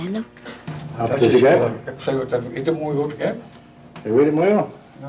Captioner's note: speaking Passamaquoddy